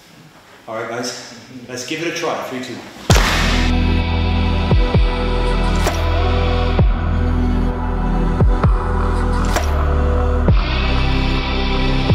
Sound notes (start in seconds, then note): 3.1 hand slaps; 5.2 slow dramatic music